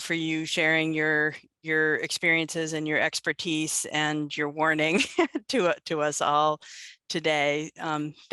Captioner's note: laughter